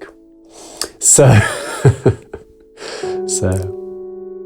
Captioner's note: laughs